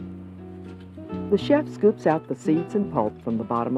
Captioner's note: voiceover